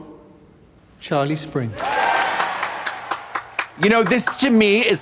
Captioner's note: audience cheering